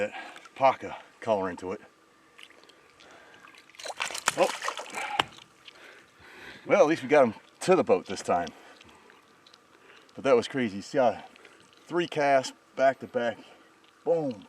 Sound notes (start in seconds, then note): 2.3 fish splashing